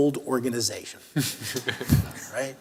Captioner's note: laughter